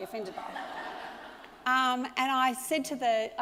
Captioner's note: audience laughs